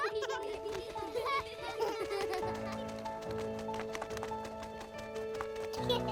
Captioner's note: children laughing; ethereal music; gentle music; wings flapping